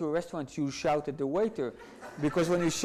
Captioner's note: audience laughs